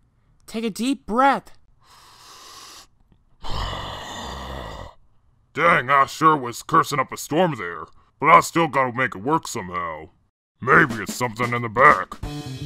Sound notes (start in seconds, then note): 1.8 breathes in, then breathes out